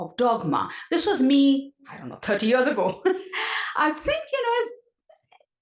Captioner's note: laugh